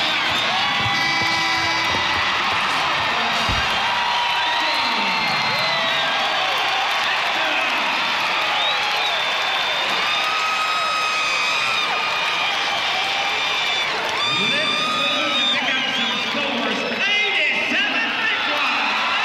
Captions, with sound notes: [buzzer and cheers] [family cheers] Let’s move to pick up some scores. 87 big ones!